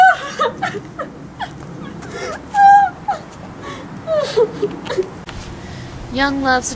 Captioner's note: cries